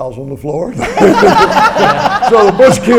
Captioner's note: audience laughs